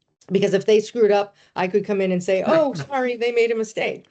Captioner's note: laughing